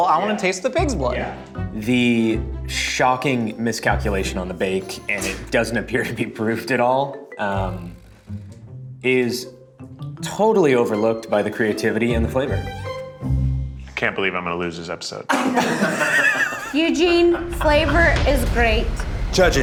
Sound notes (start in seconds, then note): 15.3 group laughs; 16.6 dramatic music